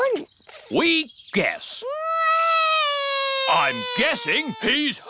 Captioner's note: alexander wails